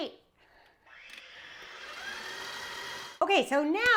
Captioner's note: mixer whirring